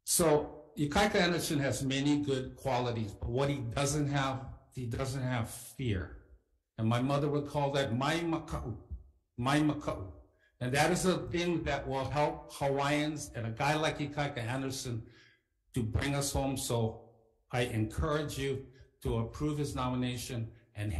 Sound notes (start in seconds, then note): 7.8 speaks Ōlelo Hawai'i